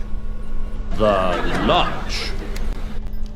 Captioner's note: crowd laughs